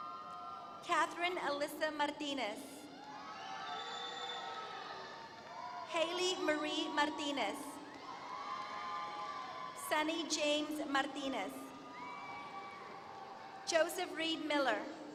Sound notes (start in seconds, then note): 7.5 applause; 12.0 applause